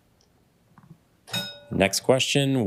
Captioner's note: bell dings